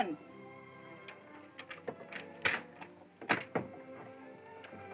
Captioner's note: door unlocks & opens